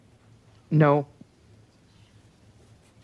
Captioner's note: speaking French